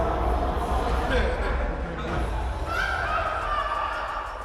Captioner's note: inmates laughing